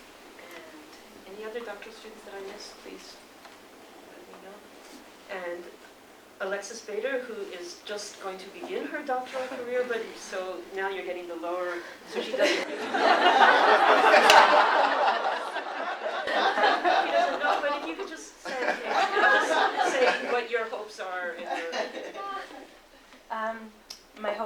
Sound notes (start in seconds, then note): 12.1 laughter